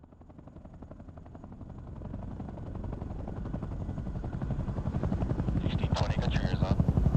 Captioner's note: helicopter blades whirring; radio chatter